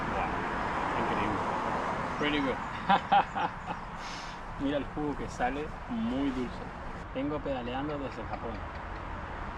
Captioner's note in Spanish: risas